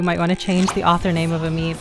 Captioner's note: pop!